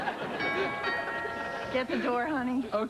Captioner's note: ding-dong